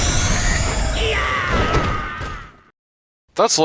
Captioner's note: screaming